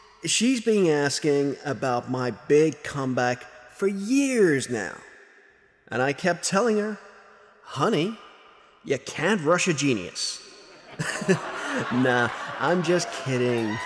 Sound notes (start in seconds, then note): 10.6 audience and Thorne laughing